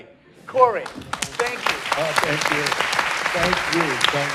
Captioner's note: applause